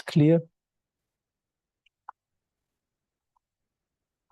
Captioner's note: mouse clicking